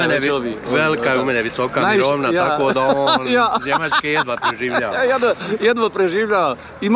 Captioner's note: laughs